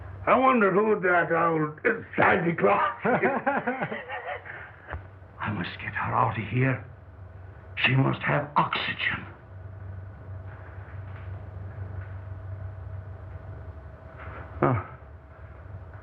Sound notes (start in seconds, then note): 2.7 both laugh; 5.8 whispering